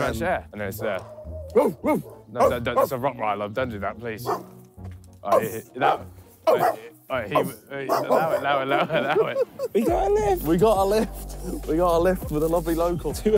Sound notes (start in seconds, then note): 1.5 dog barking; 4.2 dog barks; 7.8 laughing